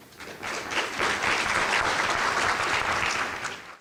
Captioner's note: audience applauding